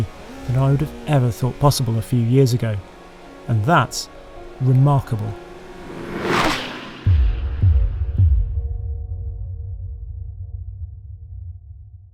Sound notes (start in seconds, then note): 5.2 engine roaring; 7.3 calm music